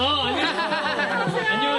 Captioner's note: hahahaha